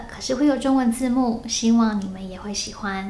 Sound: speaking Chinese: but I will have Chinese subtitle

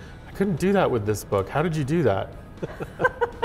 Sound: laughs

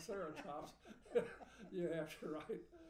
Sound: laughing

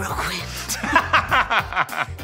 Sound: laughs

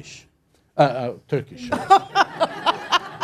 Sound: laughter

